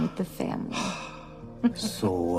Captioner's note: exhales